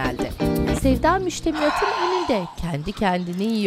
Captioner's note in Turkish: Sevda nefes sesi